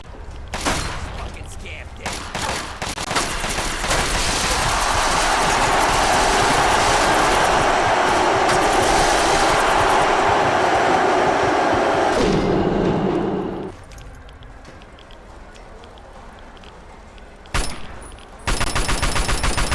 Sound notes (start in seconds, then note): 5.6 auto-axe whirring, more flesh ripping, more gunfire; 12.2 The sound of Skulls dying from radiation poisoning